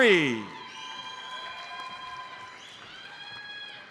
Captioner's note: audience cheers and applauds; audience member whistles